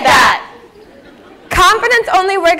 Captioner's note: laughter